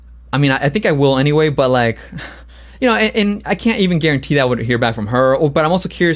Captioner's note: laughs